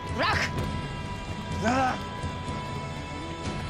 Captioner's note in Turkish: Boğuşma sesi